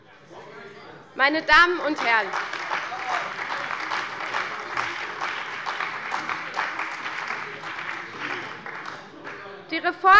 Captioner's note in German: Beifall bei der CDU und dem BÜNDNIS 90/DIE GRÜNEN